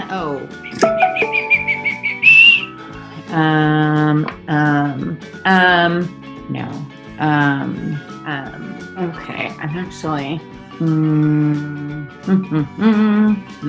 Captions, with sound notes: Oh. (dinging) (whistling) Um, um. Um. No. Um. Um. Okay. I'm actually.